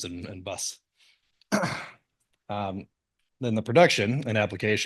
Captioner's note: cough